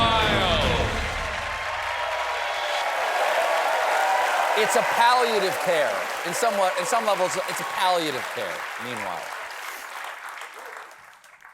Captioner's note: cheers and applause